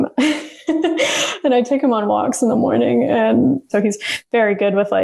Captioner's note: laughs